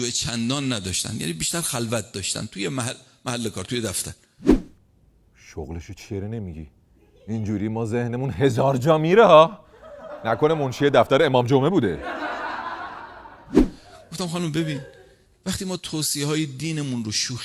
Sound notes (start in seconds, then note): 11.8 laughter